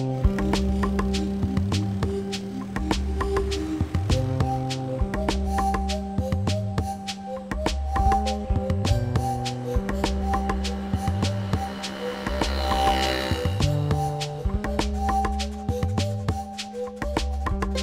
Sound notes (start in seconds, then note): 12.3 motorbike revving; 14.0 upbeat instrumental music